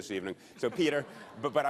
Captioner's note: laughter